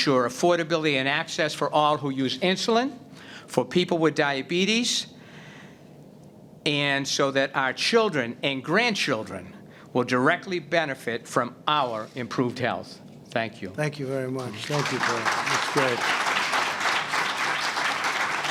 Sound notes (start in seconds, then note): 14.3 applause